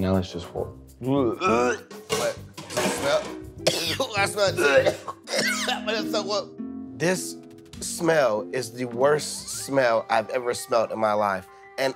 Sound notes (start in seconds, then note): 4.4 both coughing